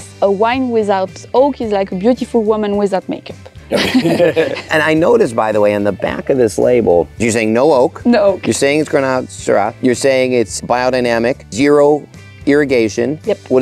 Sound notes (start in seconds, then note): 3.7 group laughs